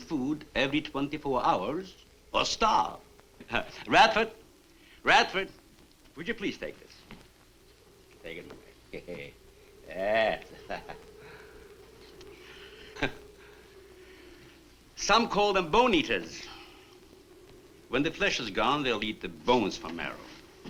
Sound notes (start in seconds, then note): 9.9 chuckles